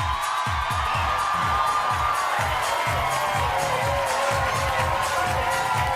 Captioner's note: bass-heavy music; audience cheering and applauding